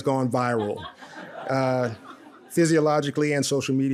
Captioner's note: audience laughs